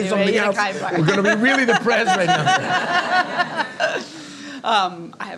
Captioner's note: audience laughing